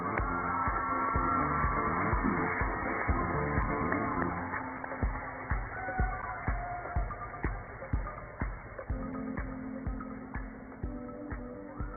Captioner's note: cheers and applause